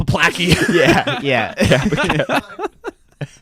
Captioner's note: everyone laughs